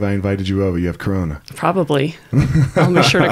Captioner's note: laughing